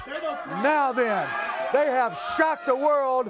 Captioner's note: crowd cheering